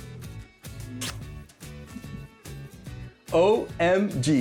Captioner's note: smooch